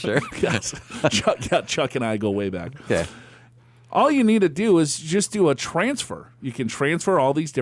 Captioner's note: laughs